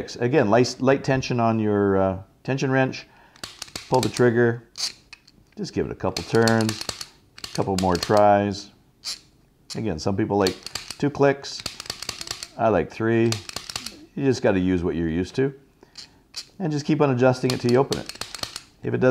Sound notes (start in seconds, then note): 4.5 crank sound